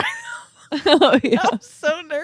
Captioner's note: both laughing